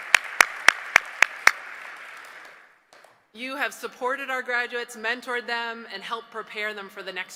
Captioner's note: applause